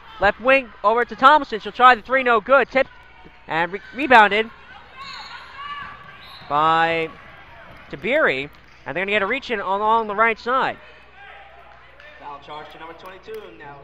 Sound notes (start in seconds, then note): 6.0 whistle blows